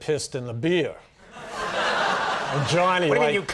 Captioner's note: audience laughing